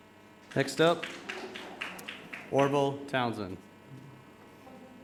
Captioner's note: audience applauding